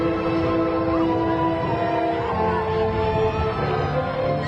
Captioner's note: graduation music continues; crowd cheering